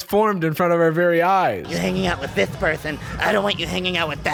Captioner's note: demonic voice